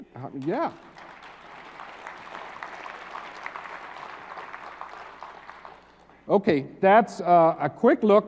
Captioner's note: applause